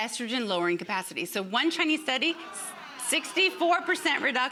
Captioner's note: audience clamors